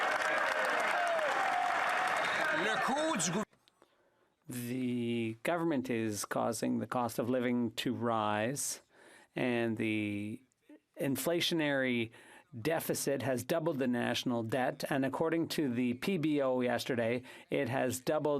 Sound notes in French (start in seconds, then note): 0.0 applaudissements